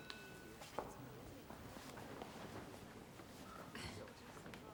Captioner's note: students murmur quietly